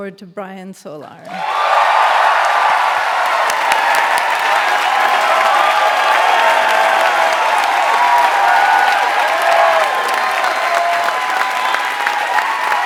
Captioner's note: applause